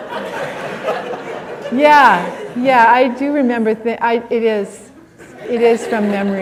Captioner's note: laughter